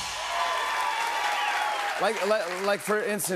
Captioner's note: cheers and applause